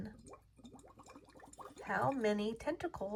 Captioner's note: water gurgles